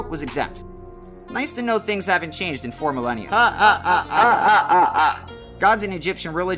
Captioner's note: distressing laughter